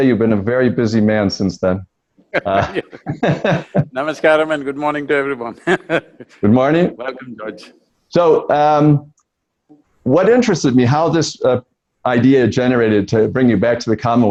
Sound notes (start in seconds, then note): 2.3 Sadhguru laughs